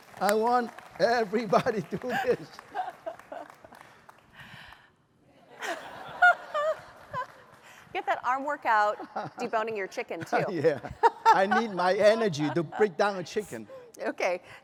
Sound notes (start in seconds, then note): 5.5 laughter